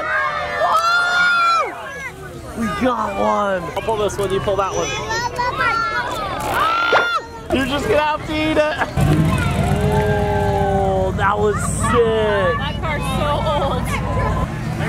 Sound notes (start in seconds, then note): 1.7 yells; 6.8 cartoon stretching and popping sound; 9.4 car engine